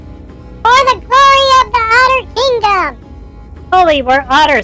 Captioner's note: shouting